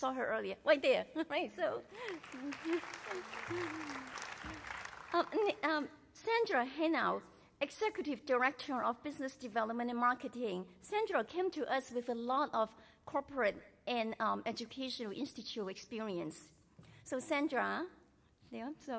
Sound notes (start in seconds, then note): 1.9 applause